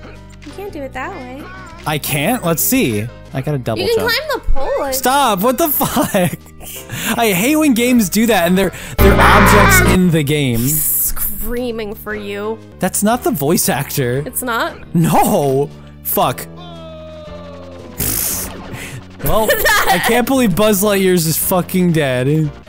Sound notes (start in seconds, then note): 18.0 buzz in-game; 19.3 laughing